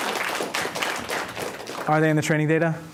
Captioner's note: applause